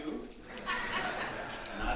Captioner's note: audience laughing